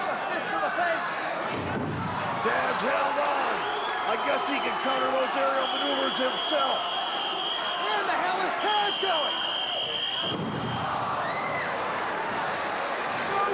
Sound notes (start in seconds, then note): 8.7 whistling; 10.5 spectators exclaiming